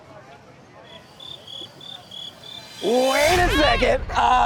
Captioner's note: crickets chirping